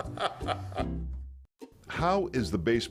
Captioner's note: laughing